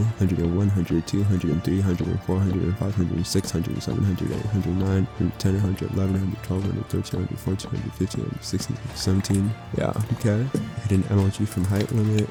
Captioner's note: water bucket clutch